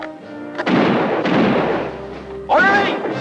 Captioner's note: guns fire